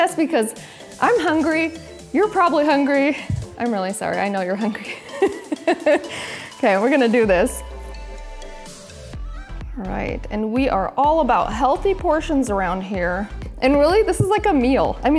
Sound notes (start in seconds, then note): 4.8 laughs